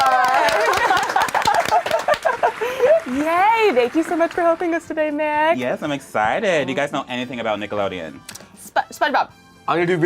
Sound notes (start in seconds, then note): 0.4 laughs